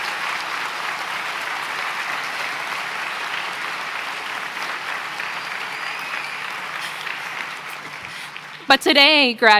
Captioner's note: applause; cheering